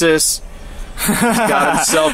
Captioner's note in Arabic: يضحك